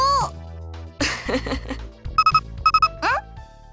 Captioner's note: chuckles